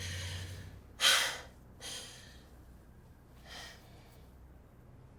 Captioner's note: Wumni breathes heavily